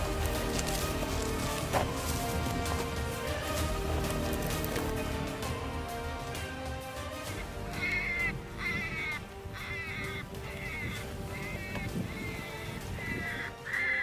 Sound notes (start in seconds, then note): 7.2 coyote calls